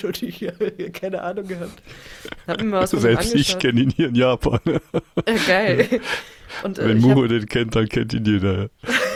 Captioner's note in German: gelächter